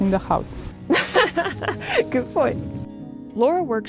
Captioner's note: laughs